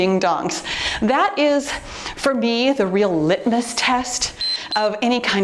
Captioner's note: timer beeps